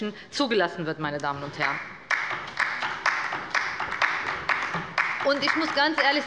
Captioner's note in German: Beifall bei der LINKEN